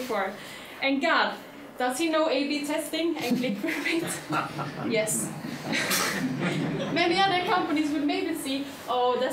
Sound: chuckling

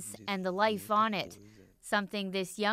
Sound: speaking foreign language

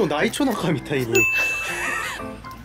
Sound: mom's big laugh

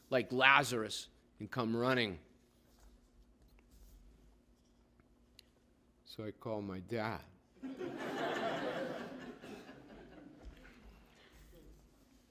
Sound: laughter

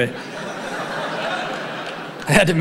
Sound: audience laughing

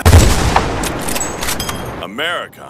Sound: bolt action

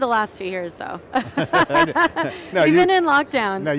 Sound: both laughing

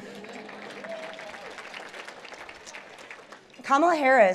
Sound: applause

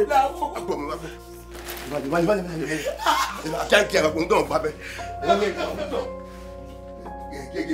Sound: cursing

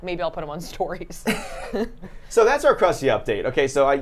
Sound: both laughing

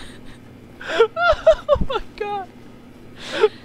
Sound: laughs

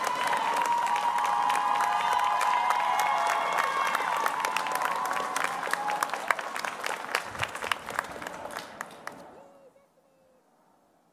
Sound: applause

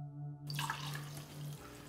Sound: none

